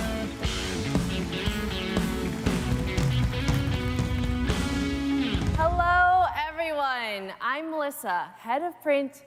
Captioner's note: applause